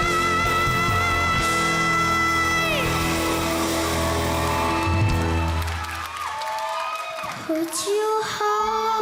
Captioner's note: crowd cheers, applauds